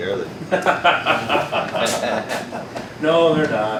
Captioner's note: laughing